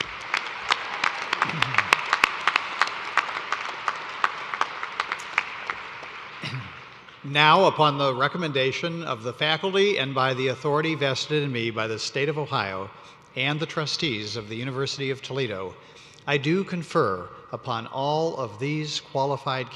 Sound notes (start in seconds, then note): 2.4 cheers and applause